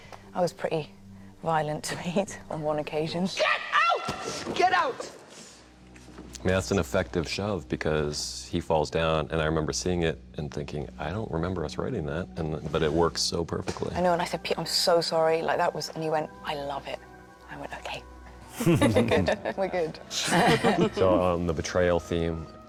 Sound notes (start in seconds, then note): 18.6 all chuckling